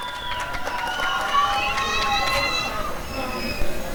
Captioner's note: applause and cheering